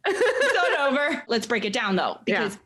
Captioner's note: laughing